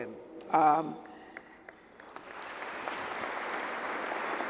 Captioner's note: applause